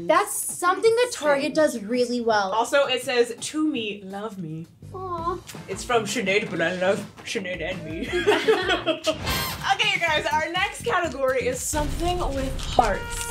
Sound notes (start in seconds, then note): 5.4 lips smacking; 8.0 girls laughing